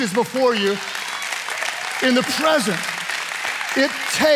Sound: audience applauding

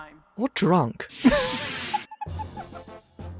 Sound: whoosh transition, WISDOM giggles

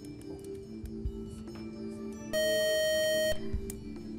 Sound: buzzer

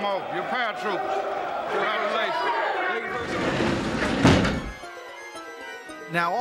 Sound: shouting

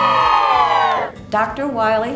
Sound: cheers

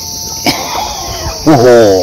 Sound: laughs

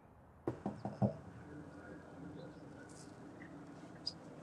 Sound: door knocking

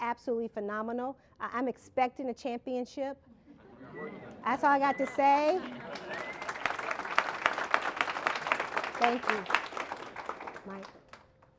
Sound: applause

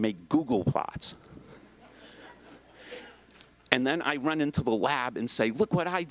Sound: laugh

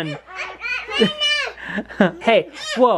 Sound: yelling

